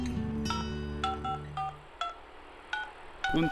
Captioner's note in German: Telefon-Wählgeräusch